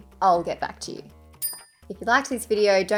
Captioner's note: bell ding